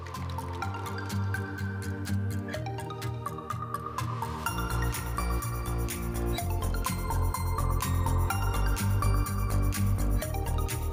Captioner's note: applause